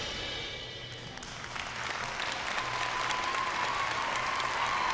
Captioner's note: crowd cheering and applauding